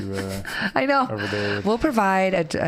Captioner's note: laughing